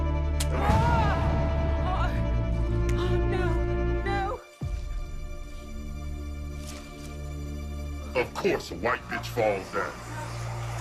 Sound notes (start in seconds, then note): 0.6 Evelyn cries out